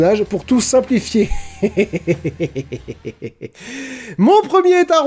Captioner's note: sarcastic laugh